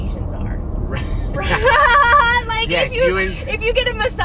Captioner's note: laughs